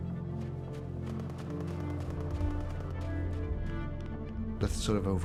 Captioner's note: dark music continues; distant gun fires rapidly; hurried footsteps pattering on sand